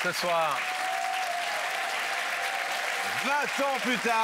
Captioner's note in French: applaudissements